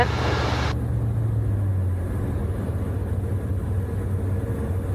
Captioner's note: plane engine roaring